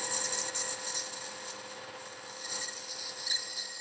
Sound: very high pitch

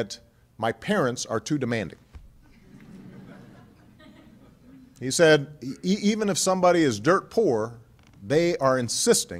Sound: laughter

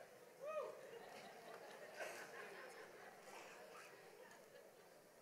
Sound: audience laughs

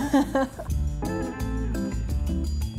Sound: laughter

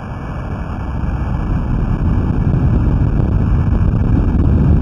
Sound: roar of earthquake recorded by hydrophone

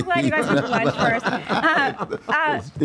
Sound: both laugh

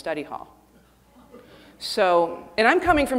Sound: audience chuckling

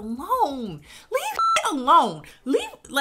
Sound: beep

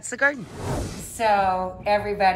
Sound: air whooshing

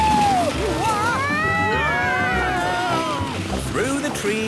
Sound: all screaming excitedly

